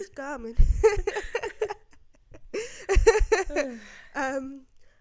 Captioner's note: laughs